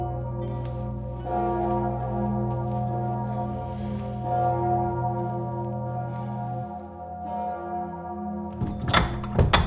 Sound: bells clanging

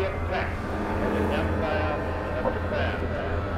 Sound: roar of a plane engine

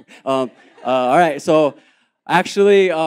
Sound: laughter

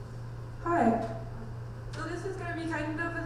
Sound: voiceover

